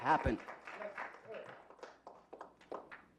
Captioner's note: clapping